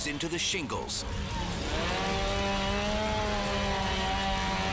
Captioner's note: chainsaw buzzing